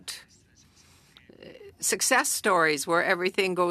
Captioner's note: speaking French